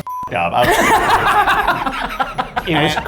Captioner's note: group laughs